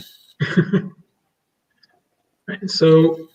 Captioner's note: laughs